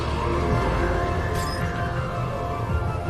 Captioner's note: frantumazioni di vetro